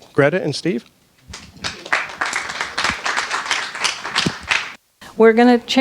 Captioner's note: audience claps